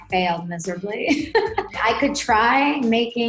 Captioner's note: laughing